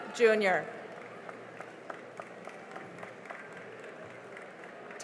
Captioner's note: cheering and applause